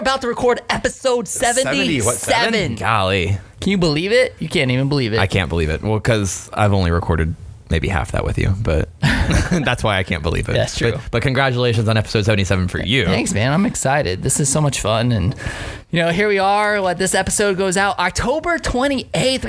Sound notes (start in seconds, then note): 9.0 laughing